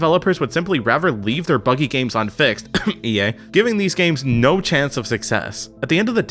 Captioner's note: cough, EA